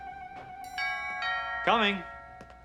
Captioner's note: door bell rings